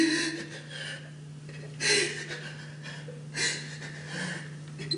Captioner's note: shuddery breathing